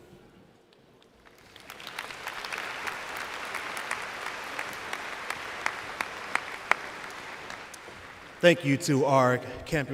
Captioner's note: applause